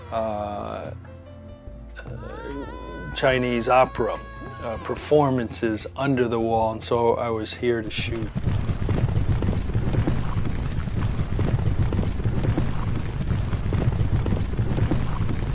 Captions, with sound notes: Chinese opera performances under the wall. And so I was here to shoot. (horses running)